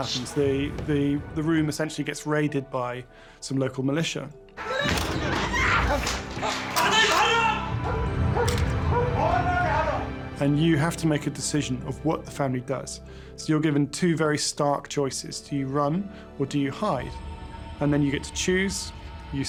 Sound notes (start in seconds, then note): 4.6 screaming and begging